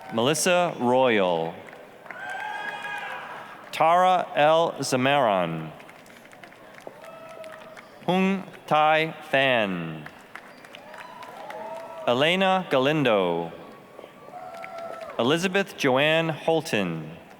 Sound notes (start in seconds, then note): 0.0 applause, cheering; 2.0 applause, cheering; 5.7 applause; 9.9 applause, cheering; 14.2 applause, cheering